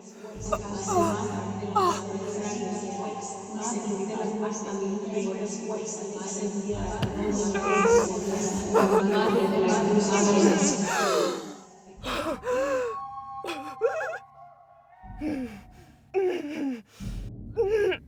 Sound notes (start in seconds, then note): 0.4 Cora winces, whispers intensify; 10.8 Cora breaths in raggedly, whispers stop